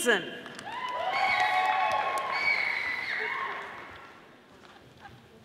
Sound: audience applauding

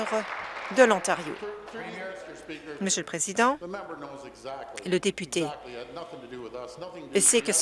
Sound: applause

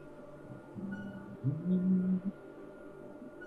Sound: humming

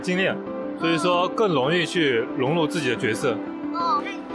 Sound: in mandarin

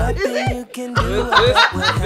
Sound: laughs

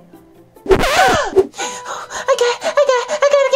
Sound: record scratching; gasping

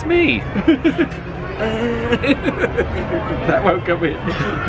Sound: laughs

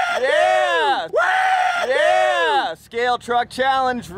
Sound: cheering

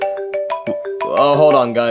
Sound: phone ringing

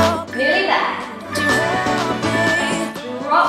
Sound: beeping

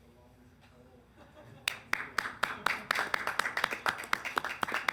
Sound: audience applauds

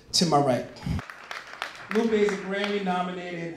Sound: applause

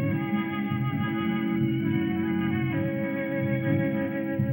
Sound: none

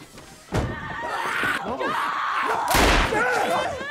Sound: gun fires; Ellie screams

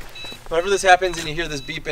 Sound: beeping

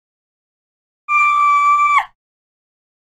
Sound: scream

